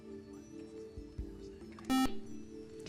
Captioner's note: beep